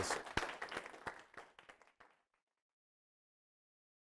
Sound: applause

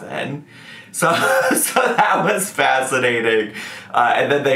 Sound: laughs

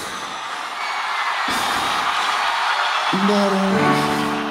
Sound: audience cheering

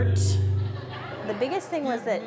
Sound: audience laughing

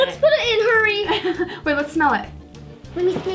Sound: giggles

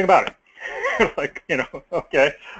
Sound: laugh

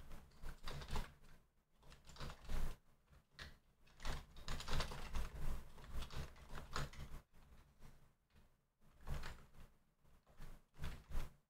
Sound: typing

